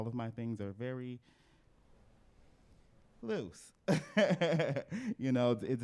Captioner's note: laughs